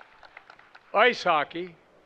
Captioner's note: applause